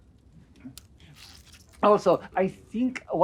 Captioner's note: squishing sound